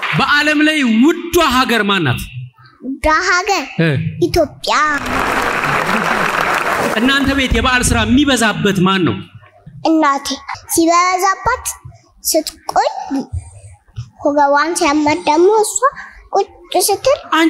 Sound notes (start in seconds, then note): 4.8 applause